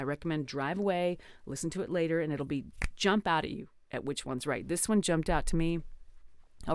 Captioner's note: snap